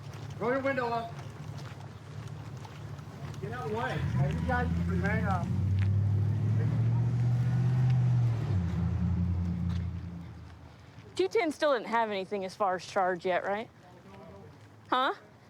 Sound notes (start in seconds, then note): 6.0 truck driving